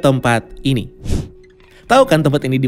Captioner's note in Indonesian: suara transisi